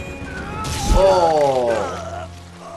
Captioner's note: sword slicing flesh; swords clanging; grunting